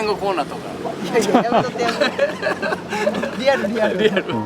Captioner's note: laughs